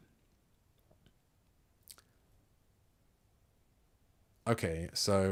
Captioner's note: silence